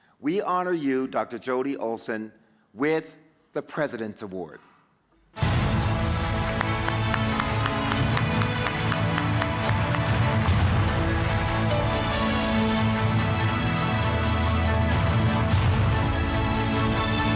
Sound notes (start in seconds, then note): 5.6 dramatic music; 6.3 clapping; 10.7 dramatic music